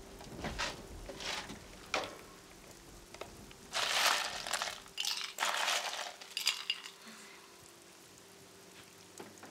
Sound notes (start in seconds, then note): 3.6 pouring ice